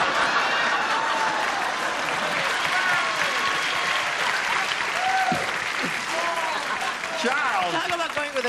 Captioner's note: laughter